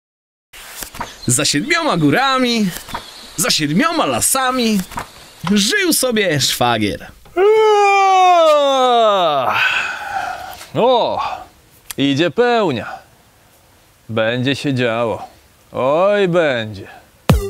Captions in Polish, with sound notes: Za siedmioma górami, za siedmioma lasami Żył sobie Szwagier *ziewanie* Ooo, idzie pełnia. Będzie się działo... Oj będzie...